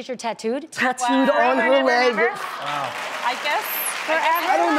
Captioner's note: clapping